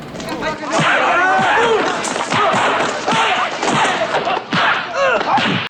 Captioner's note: Bruce Lee martial arts smacking sounds